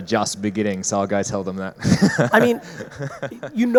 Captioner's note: laughs